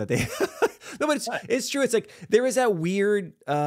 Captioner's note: laughs